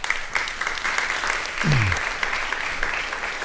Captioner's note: applause